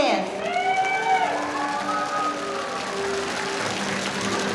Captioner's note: audience applauding